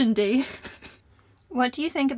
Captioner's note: laughs